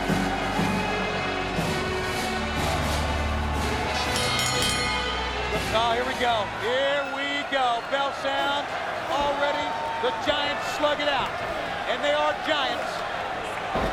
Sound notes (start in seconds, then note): 0.3 dramatic music continues; 3.9 bell dinging